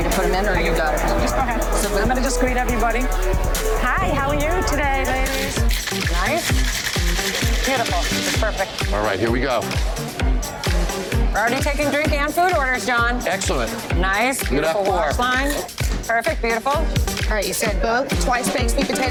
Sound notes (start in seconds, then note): 8.3 ice shakes